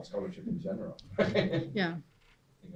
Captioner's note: laughs